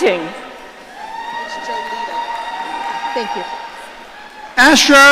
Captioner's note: audience cheering